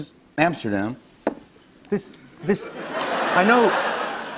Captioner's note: laughter